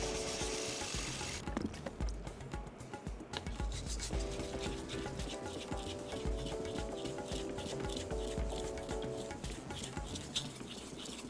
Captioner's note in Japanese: 刃先を研ぐ音